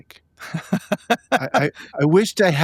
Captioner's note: laughing